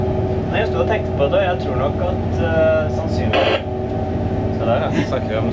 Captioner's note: radio noise